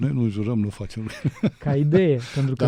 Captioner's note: laughter